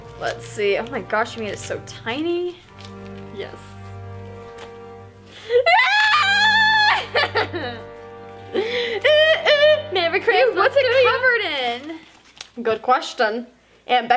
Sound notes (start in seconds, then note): 5.6 squealing; 7.5 laughing